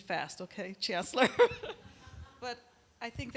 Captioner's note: laughter